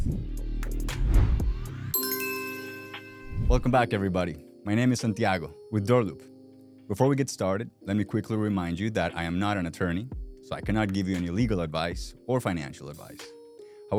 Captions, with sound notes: (graphics whooshing) (upbeat hip hop music) (logo dinging) Welcome back, everybody. My name is Santiago with DoorLoop. Before we get started, let me quickly remind you that I am not an attorney, so I cannot give you any legal advice or financial advice.